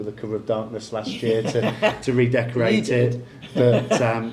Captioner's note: laughs